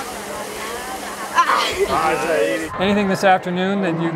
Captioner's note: participant grunts